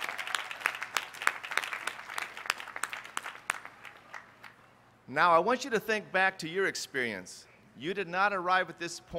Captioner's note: applause